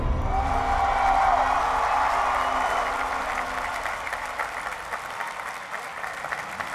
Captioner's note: cheering and applause